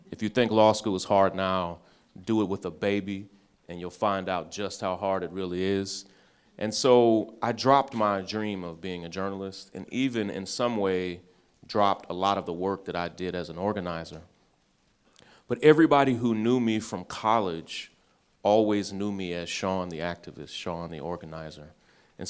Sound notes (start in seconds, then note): none